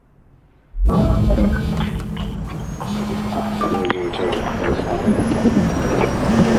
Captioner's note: mechanical whirring; phones buzzing